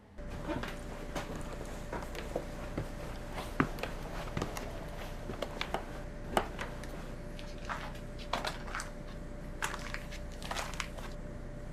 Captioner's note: footsteps